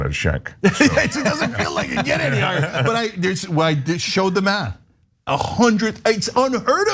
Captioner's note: laugh